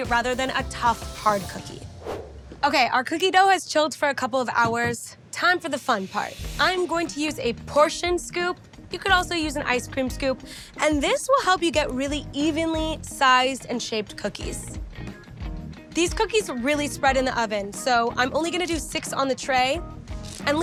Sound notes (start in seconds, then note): 1.8 screen whooshing